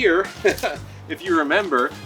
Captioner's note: chuckling